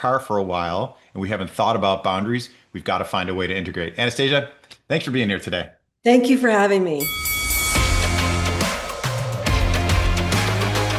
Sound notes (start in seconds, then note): 7.0 bell dinging; 7.0 upbeat music